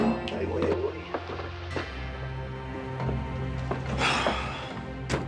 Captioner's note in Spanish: ruido al llevárselo